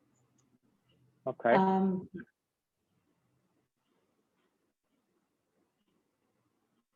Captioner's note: silence